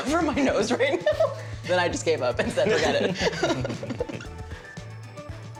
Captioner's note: laughter